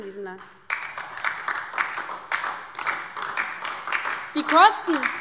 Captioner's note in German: Beifall DIE LINKE